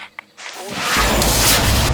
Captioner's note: explosion